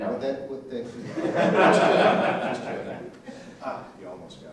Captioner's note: laughter